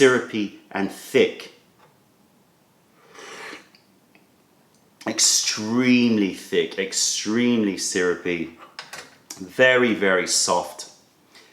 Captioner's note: sips tea